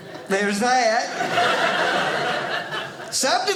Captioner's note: audience laughing